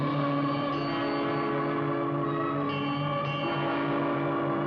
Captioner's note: bell ringing